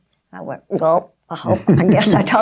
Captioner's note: laughing